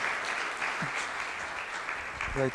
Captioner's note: applause